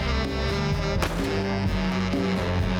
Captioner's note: gun firing